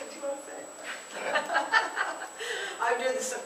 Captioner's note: laughter